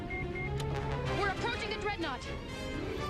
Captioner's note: beeping